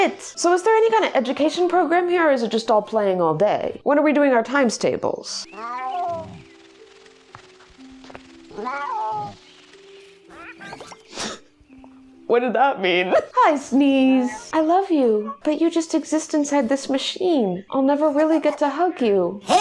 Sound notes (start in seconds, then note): 5.4 meow; 8.5 meow; 13.8 laughing